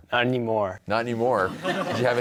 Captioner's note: laughter